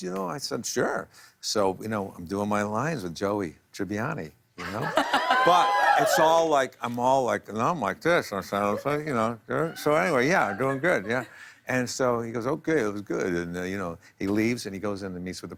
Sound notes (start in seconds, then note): 4.6 laughter, cheers